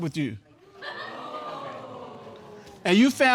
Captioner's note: audience exclaiming